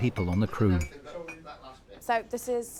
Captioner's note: cutlery clacking; crew chattering